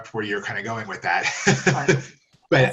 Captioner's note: laughs